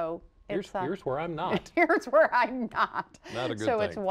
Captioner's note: laughter